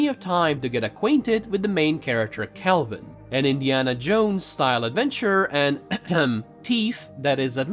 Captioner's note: cough